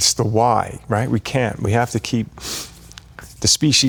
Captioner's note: sniffles